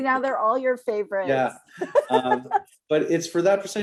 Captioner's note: laughter